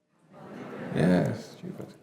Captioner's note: audience answering